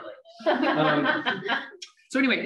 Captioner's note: laughs